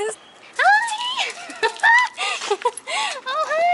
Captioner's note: laughter